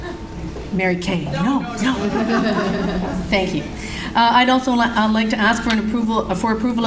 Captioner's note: laughter in audience